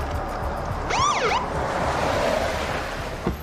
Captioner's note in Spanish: Sonido de la sirena